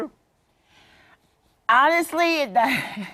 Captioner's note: laughter